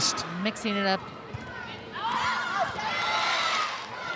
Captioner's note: ball thumping; audience cheering